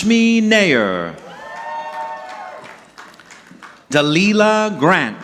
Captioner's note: audience clapping